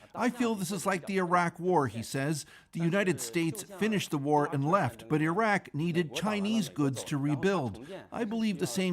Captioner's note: speaking alternate language